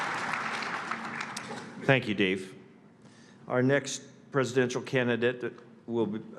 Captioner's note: applause